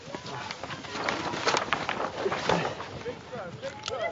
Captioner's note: crinkling; people chatter